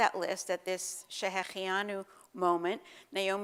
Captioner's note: Hebrew